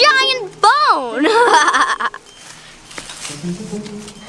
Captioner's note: laughs